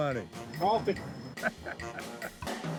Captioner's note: laughter